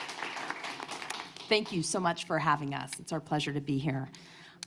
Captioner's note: applause